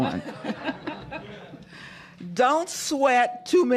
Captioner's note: laughter